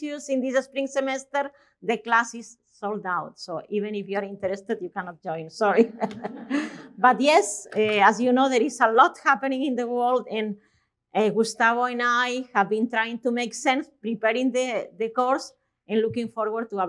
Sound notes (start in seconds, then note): 5.8 chuckling